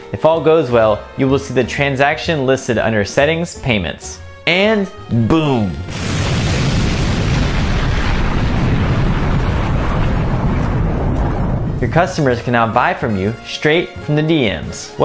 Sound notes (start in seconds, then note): 5.7 explosion blasts